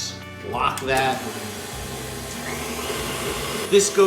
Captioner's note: mixer whirring